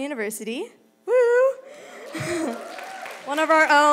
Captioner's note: crowd cheering